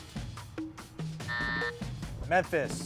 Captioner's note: buzzer sounding